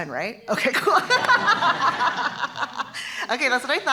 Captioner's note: laughter